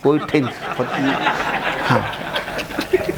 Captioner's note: laughing